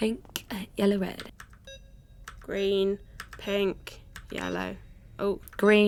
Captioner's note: multiple beeps